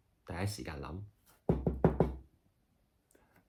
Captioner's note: knocks on table